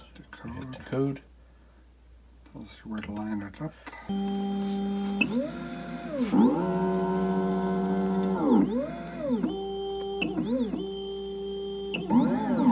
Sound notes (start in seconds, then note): 4.2 machine whizzing; 5.1 machine beeping; 5.3 machine revving; 10.1 machine whizzing; 10.4 machine beeping; 12.5 machine revving